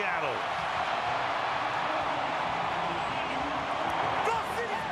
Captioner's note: cheering